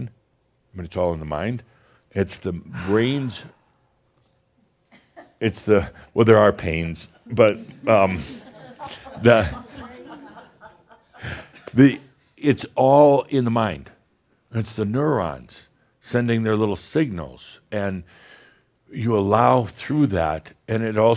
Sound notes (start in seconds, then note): 12.1 a few chuckles